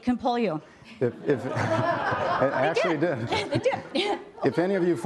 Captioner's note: laughter